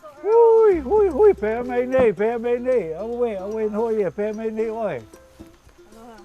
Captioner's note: speaking Hawaiian